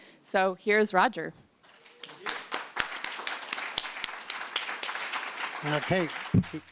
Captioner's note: applause